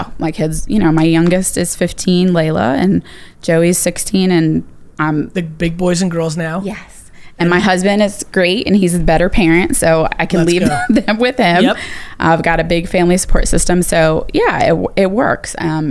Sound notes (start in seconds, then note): 10.3 laughs